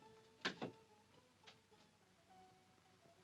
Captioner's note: knife thumps down